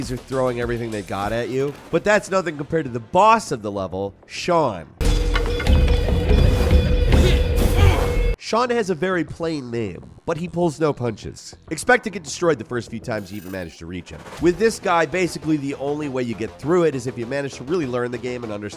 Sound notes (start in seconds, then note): 5.0 tense music; 5.1 grunting